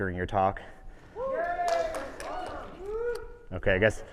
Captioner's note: audience cheering